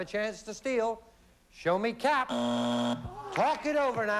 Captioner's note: buzzer